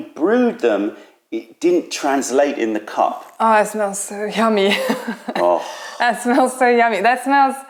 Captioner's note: laughter